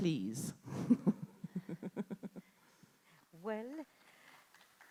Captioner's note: audience member chuckling